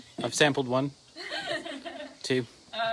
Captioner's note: laughing